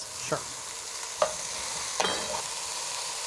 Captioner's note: sizzling